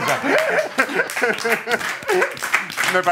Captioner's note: applause